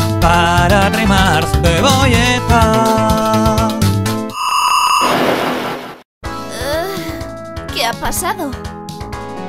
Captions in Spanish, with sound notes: Para arrimar ¡cebolleta...! *SUSPIRO* ¿Qué ha pasado?